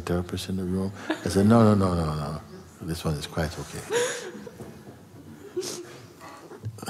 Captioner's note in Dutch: gelach